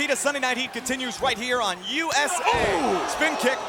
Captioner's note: Shane exclaims